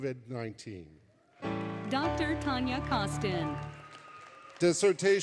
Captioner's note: applause, Music; applause, Cheering